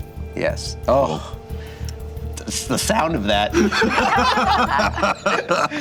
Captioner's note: group laughter